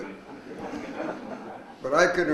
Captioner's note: audience laughs